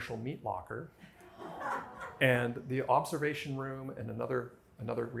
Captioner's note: laughter